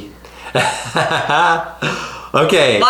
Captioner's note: laughing